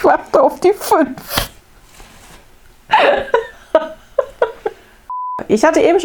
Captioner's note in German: lacht